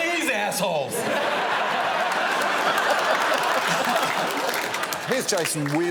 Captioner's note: audience laughs